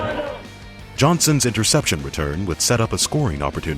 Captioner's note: voiceover